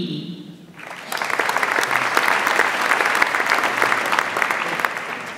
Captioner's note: audience applauds